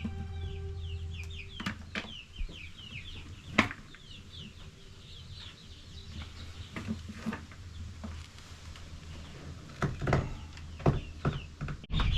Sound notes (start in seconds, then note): 3.8 birds chirping